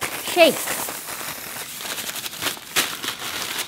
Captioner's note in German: Lautes Rasseln des Zuckers